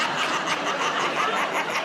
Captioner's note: laughter